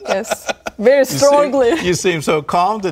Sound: laughter

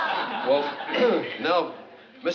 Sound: clears throat

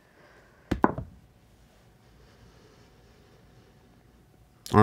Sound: dice clatter

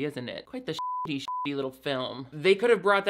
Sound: beep

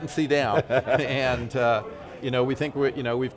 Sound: laughing

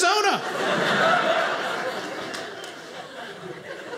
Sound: audience laughing

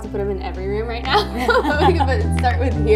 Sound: both laugh

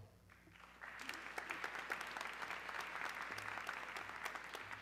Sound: audience clapping

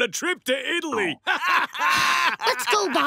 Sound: laughing

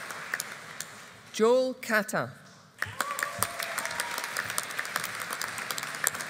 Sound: audience applauding

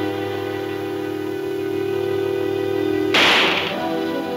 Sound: gun firing

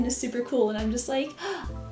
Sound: gasp

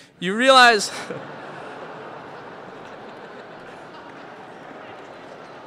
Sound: laughter

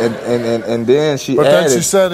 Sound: audience laughs

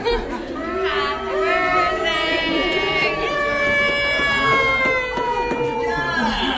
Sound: party noise makers blowing; cheering and laughing

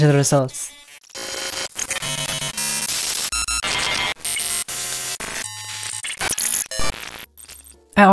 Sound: various glitchy sounds playing

